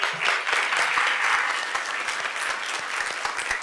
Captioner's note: applause